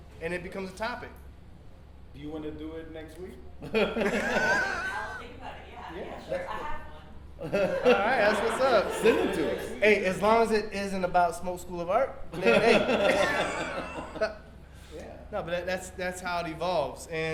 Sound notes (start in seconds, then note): 3.6 laughs; 12.3 panel laughs